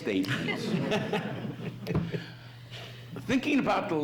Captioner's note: audience laughs